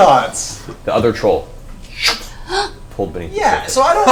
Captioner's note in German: Sauggeräusch